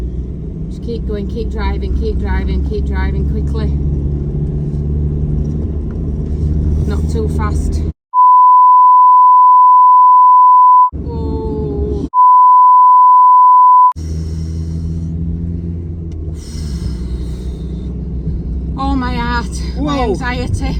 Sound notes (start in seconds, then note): 8.1 beeeeeep, Beeeeep!; 11.5 beeeep; 13.9 deep breathing